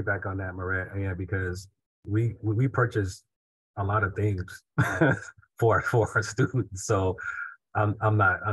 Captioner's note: laughs